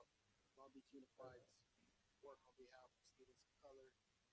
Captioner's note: murmurs